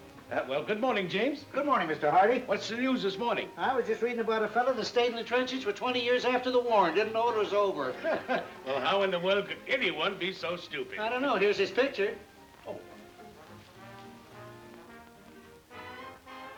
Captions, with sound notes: - Well, good morning, James. - Good morning, Mr. Hardy. - What's the news this morning? - I was just reading about a fella that stayed in the trenches for 20 years after the war, and didn't know it was over. (both laughing) - Well, how in the world could anyone be so stupid? - I don't know. Here's his picture. - Oh. (gentle music)